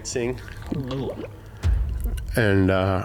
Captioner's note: guts bubbling